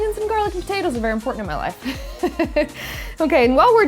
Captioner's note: laughs